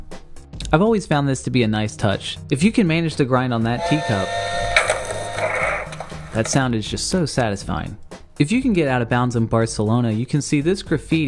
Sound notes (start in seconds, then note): 3.7 whistle